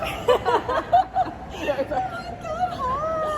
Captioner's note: laughing